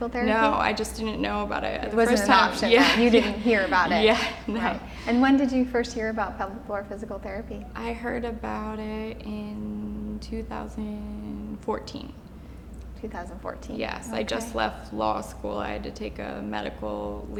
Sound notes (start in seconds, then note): 5.9 laughing